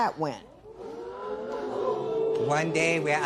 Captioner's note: spectators Ooh